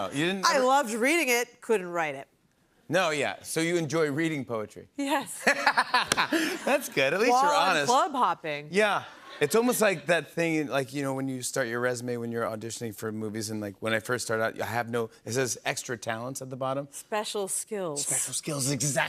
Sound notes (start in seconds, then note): 5.5 laughs